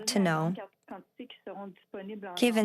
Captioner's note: speaking French